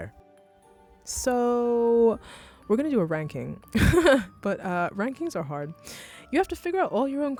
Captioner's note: laughs